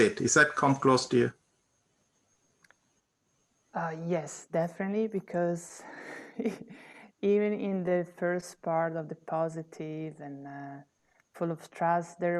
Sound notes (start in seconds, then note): 6.1 laughter